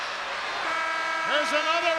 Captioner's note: buzzer buzzes